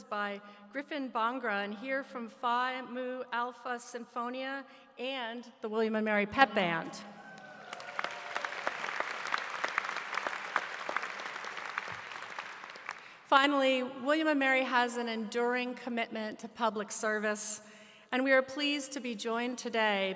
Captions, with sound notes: Griffin Bhangra in here from Phi Mu Alpha Sinfonia and the William & Mary Pep Band . (Applause) > > Finally, William & Mary has an enduring commitment to public service. We are pleased to be joined today by numerous public officials,